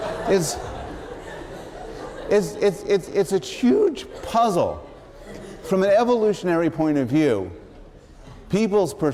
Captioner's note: laughter